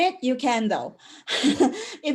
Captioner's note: breathy laugh